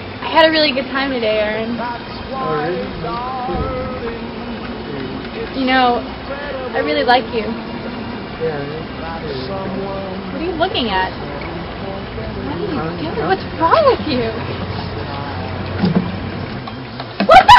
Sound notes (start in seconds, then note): 14.1 sobbing